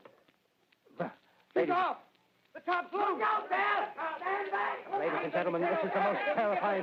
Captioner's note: صراخ من عدة أصوات